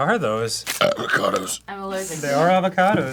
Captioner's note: burps